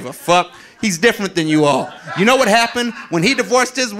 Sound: audience laughing

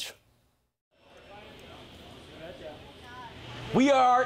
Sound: chatting in background

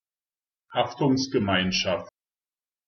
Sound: fast Pronunciation

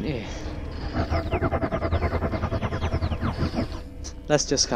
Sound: The Tardis makes a cheerful noise

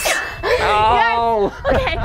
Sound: laughs

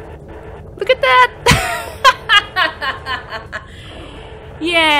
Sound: laughs

